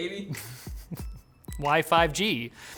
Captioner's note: chuckles